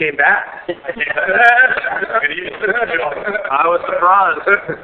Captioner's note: laughing and crosstalk